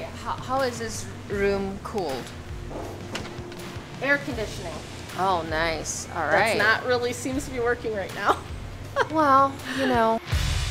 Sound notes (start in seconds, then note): 8.9 laughs